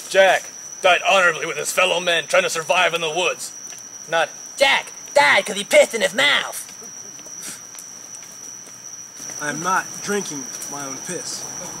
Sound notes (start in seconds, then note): 7.0 crickets stridulating